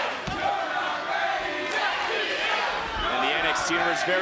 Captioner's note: crowd chants